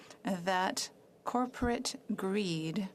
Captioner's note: speaking French